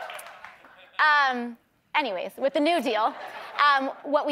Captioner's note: laughter